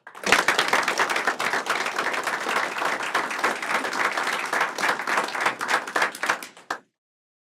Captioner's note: applause